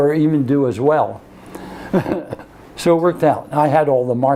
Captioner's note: laughs